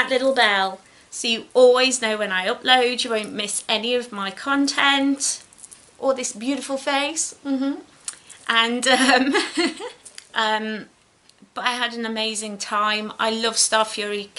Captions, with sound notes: little bell so you always know when I upload you won't miss any of my content or this beautiful face mm-hmm (giggles) but I had an amazing time I love Starfury